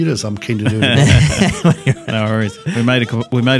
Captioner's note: both hosts laughing